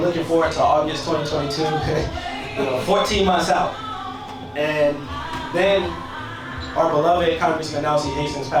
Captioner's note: laughs